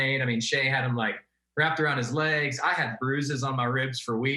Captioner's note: none